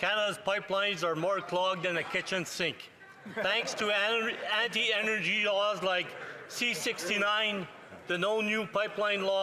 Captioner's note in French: voix de l'interprète